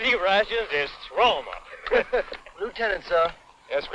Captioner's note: laughing